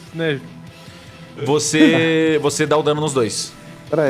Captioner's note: Guaxi laughs